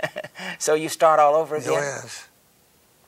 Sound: chuckles

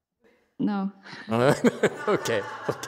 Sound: laughs

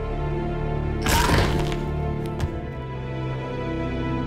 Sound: cracking

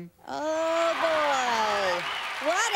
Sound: applause

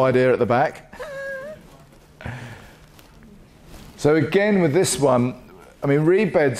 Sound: laugh

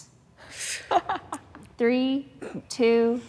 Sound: participant laughs

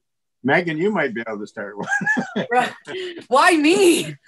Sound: laughs

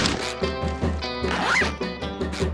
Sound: zipping

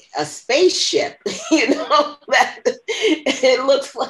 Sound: laughter

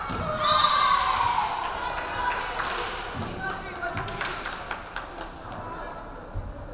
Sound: crowd cheering; referee whistling

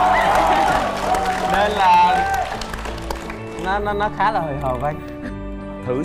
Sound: cheering

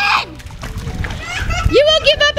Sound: splash

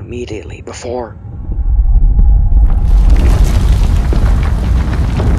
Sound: loud rumbling

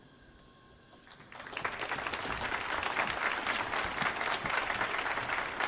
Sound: audience applauding

